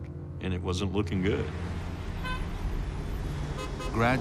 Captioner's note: car horns honking